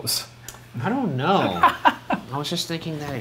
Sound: laughing

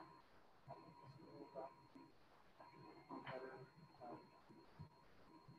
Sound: student speaking faintly

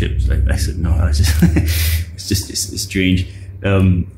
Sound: laughs

